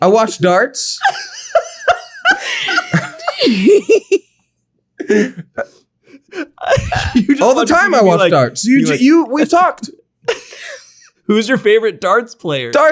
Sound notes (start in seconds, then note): 1.0 laughing